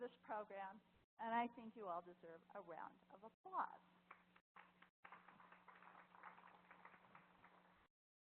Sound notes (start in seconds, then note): 4.0 applause